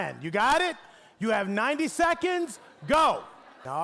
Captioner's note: audience laughing